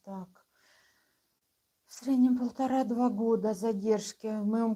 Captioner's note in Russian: none